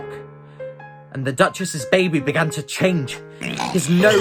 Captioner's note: pig Squeal